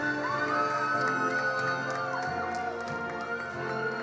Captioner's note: attendees applauding